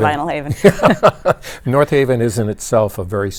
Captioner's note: both laughing